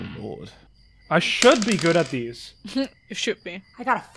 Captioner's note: more dice clacks